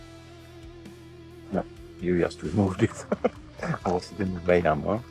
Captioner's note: laughs